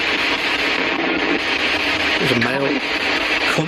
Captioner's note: Ovilus speaking